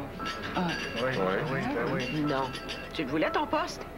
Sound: Tous, d'une voix faible

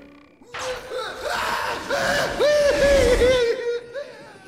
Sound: screaming

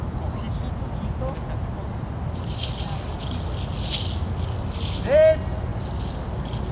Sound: murmurs

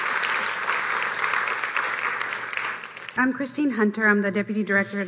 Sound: applause

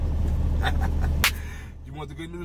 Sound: laughs and claps

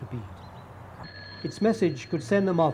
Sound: phone ringing

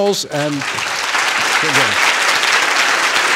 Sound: applause

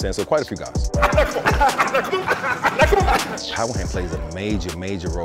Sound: laughing

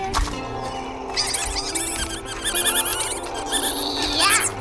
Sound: squeaking

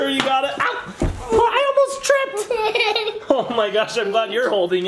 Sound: giggles

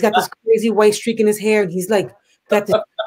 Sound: laughs

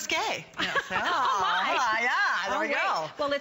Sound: laughter

